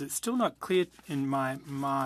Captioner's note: speaking French